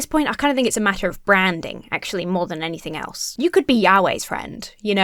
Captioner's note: none